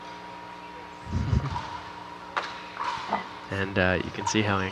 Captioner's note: chuckling